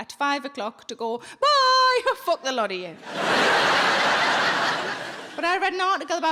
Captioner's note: audience laughing